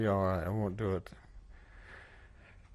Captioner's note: sigh